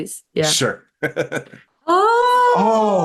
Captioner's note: chuckles